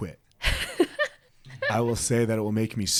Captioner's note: laughs